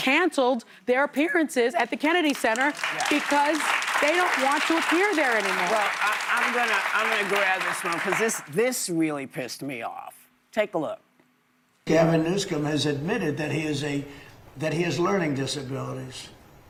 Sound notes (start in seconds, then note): 9.5 applause